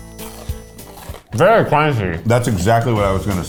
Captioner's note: upbeat music; crunching